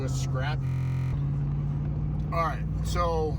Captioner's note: buzzer